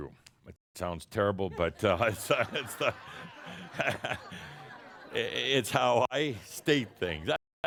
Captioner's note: laughter